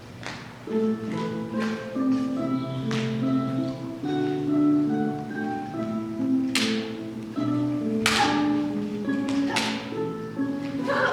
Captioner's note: swordfighting sounds over romantic music